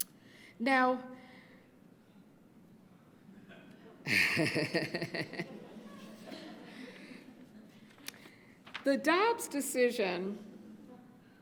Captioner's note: laughs